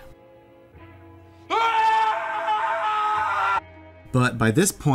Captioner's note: yells